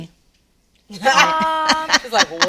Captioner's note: laughs